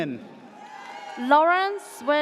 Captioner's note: audience cheers